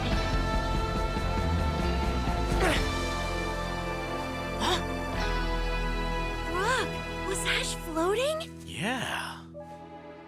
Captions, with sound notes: [Ash grunts] Huh? -Brock? Was Ash floating? -Yeah.